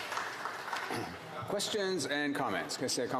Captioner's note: speaking in french